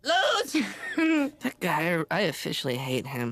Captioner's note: laughs